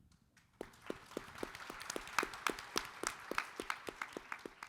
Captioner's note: audience applauding